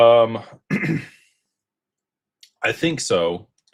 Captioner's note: clears throat